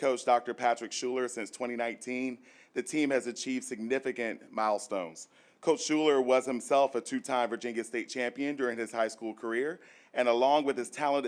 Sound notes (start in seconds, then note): none